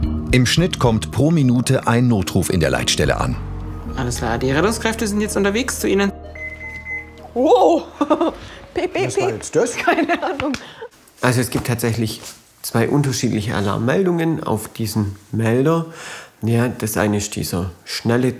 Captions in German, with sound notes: Im Schnitt kommt pro Minute ein Notruf in der Leitstelle an. Die Rettungskräfte sind jetzt unterwegs zu ihnen. (Piepsen) Wow! Piep-piep-piep! Was war jetzt das? - Keine Ahnung. Es gibt zwei unterschiedliche Alarmmeldungen auf diesem Melder. Das eine ist dieser schnelle Ton,